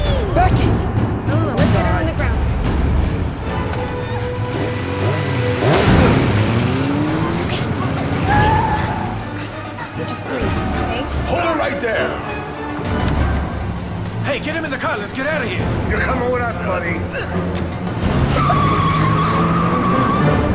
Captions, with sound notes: -Let's get her on the ground. [motorcycle revving] [impact sound] [tire screech] -Becky just breathe. Okay. -Hold it right there. -Hey get him in the car let's get out of here. -You're coming with us buddy. [car door closes] [tire screeching] -Somebody call 911.